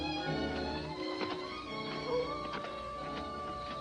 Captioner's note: coyote howls